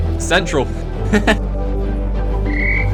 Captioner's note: laughs; whistle